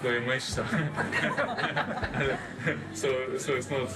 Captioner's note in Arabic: يضحك الجمهور